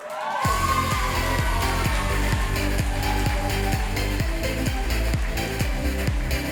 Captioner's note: applause and music